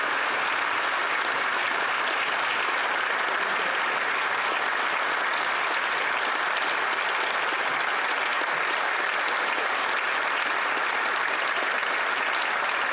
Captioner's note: applause